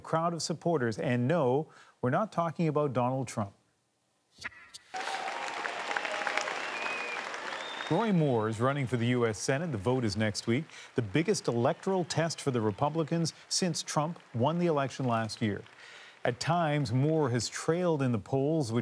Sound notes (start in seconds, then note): 7.1 applause